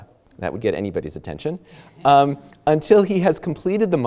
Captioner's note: audience chuckles